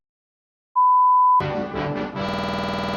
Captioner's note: bars and tone